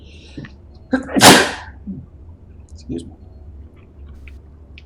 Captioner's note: sneezes